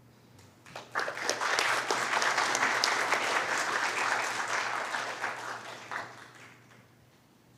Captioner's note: applause